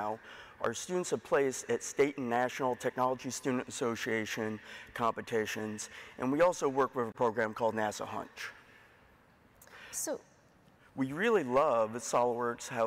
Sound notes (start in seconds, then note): none